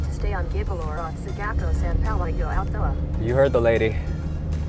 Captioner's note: speaks in foreign language